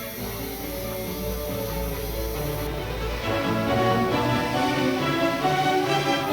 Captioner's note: machinery humming; lively orchestral music